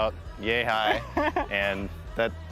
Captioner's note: laughs